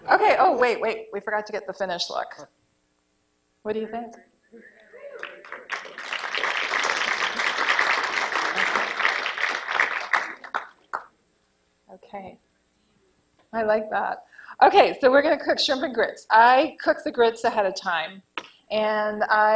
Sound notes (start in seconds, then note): 10.3 applause